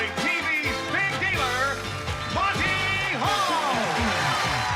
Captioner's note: cheering